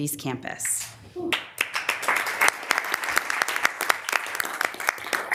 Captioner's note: members applauding